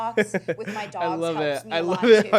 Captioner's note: chuckles